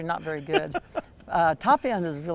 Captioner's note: laughter